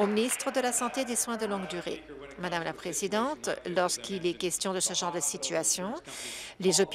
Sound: applause

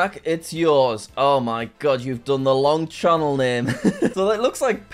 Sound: laughs

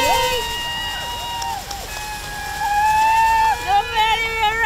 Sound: cheering

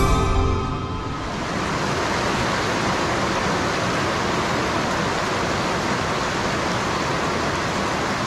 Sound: stream flowing

